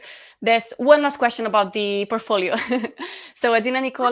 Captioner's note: laughs